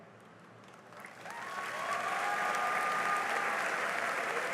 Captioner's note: cheering and applause